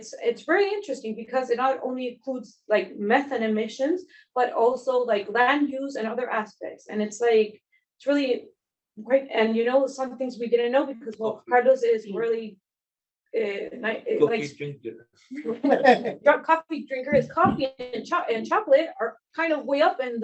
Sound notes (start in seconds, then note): 15.4 everybody laughs